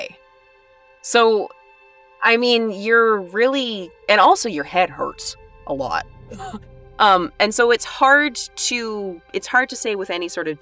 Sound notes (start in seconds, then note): none